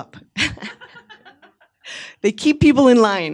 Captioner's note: audience member laughing